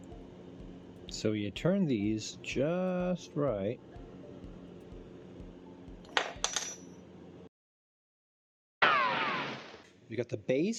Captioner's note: hilarious gunshot gag noise